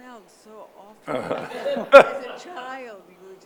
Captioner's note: audience laughing